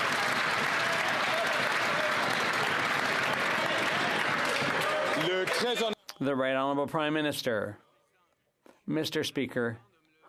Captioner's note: some Applause